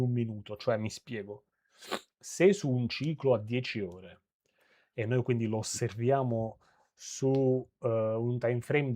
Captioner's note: it puffs